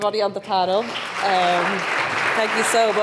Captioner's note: audience applauds